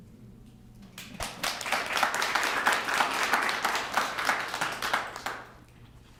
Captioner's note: applause